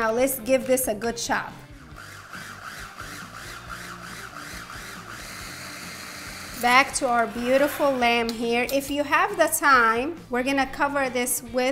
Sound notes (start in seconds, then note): 1.8 mixer whirring